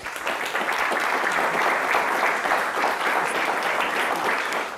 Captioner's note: audience applauding